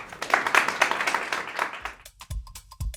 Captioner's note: applause